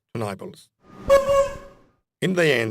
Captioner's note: horn noise